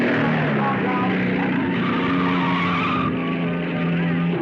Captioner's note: car whirring; tires squealing; thrilling music